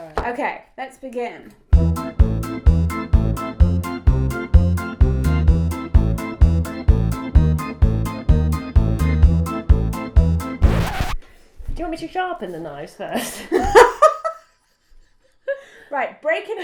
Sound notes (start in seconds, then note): 1.7 spooky music; 10.5 record scratch; 14.0 laughs